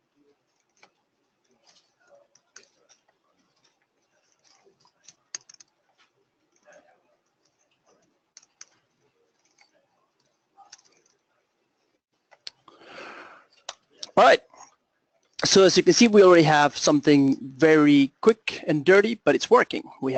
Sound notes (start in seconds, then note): 5.0 pause